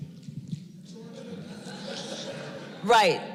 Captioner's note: laughter